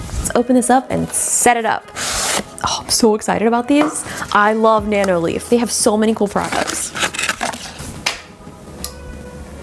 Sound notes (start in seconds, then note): 1.9 box scraping